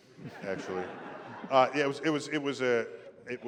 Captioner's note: laughter